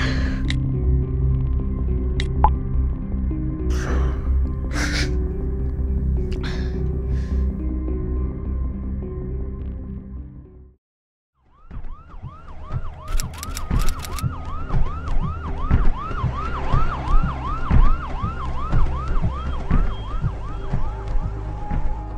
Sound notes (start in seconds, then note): 14.3 ambulance siren